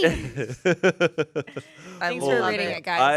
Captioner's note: laughs